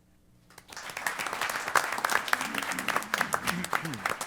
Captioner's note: applause